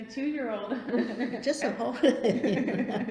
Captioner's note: laughs